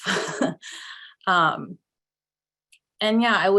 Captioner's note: chuckles